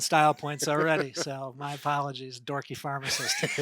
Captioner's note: laughing; laughing